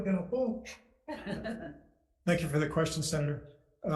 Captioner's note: laughing